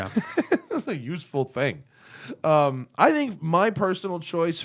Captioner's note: laughter